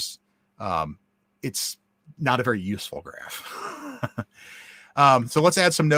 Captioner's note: laughs